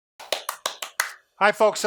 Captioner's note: clapping